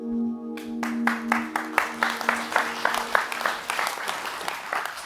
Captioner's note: audience applauding